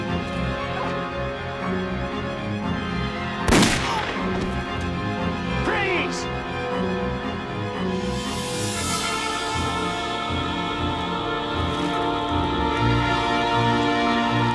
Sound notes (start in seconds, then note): 3.5 gunshot; 9.7 intense music playing